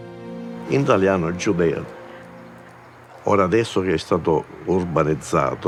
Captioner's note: speaks in foreign language